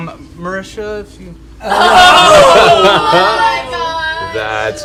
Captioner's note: cheering